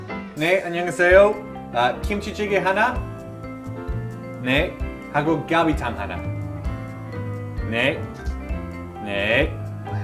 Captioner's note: Korean